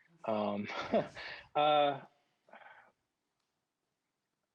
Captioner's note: chuckles